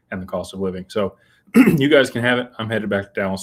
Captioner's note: clears throat